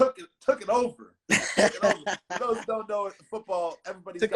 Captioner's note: laughing